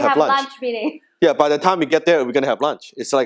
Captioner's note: laughing